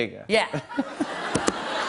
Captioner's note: laughter